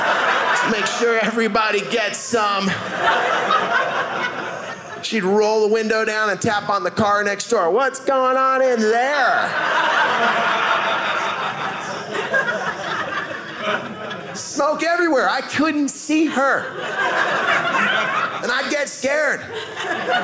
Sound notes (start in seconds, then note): 2.6 audience laughing; 9.0 audience laughing